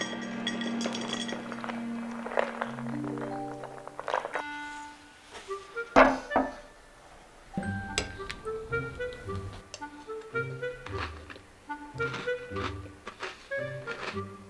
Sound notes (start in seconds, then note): 1.2 SFX: Pouring milk; 11.7 eating